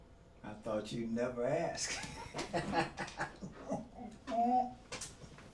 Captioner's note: laughing